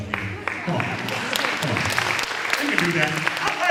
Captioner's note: applause